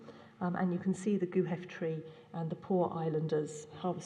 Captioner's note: non-english